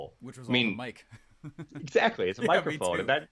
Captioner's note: laughing